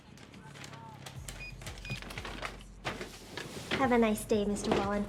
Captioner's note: bag crinkles; register beeps